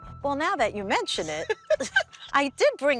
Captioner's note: laughs